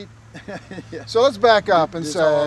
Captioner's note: laughing